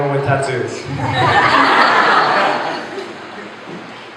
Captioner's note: laughter